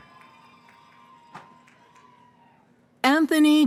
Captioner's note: cheering